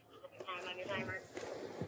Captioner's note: radio chatter